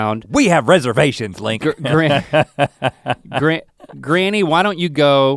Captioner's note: chuckles